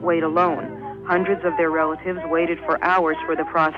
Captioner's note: archival news audio